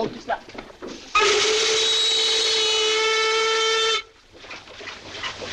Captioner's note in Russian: свист парохода